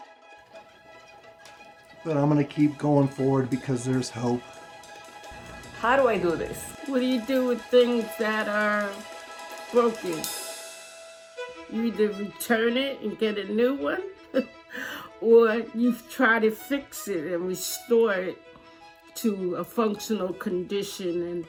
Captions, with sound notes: But I'm going to keep going forward because there's hope. How do I do this? What do you do with things that are broken? You either return it and get a new one, (chuckles) or you try to fix it and restore it to a functional condition and,